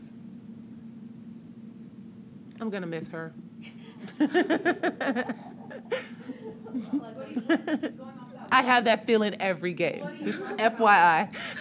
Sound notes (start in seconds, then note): 3.7 laughter